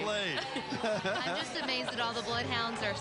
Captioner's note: laughing